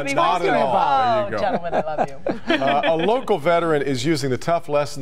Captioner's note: laughter